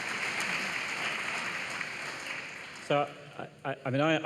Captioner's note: applause